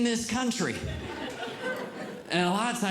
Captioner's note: audience Laughing